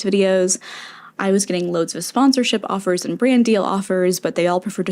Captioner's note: inhale